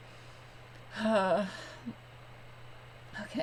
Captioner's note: sigh